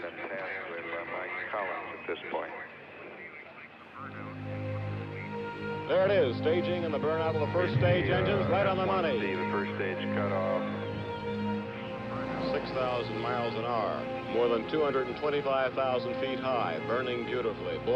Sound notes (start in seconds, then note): 2.8 people talking on radio